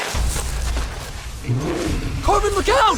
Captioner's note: growls